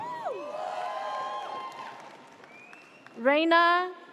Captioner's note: audience cheers